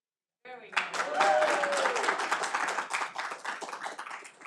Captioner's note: all applauding